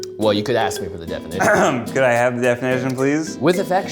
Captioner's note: clears throat